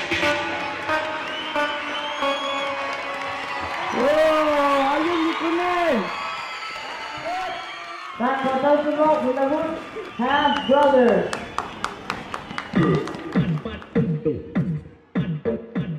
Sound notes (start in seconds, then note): 3.5 cheers and applause; 12.3 applause